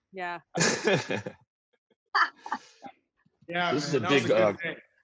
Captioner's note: laughter